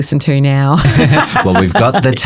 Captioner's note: laughing; both chuckling